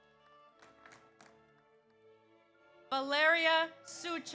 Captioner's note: audience applauds